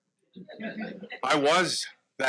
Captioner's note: audience laughs